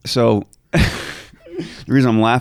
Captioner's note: chuckling